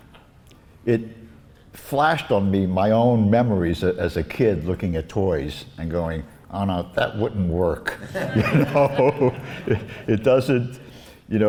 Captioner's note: laughs